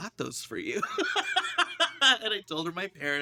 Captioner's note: both laugh